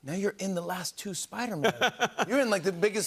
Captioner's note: laughs